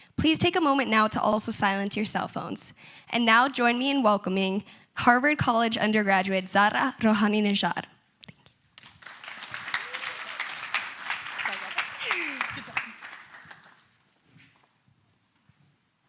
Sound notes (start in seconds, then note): 8.8 applause